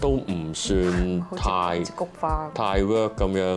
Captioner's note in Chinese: 小聲